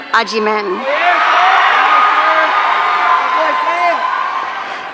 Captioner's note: audience cheering